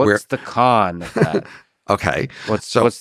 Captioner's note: chuckles